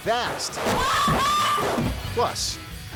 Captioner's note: woman screaming